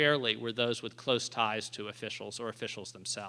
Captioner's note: none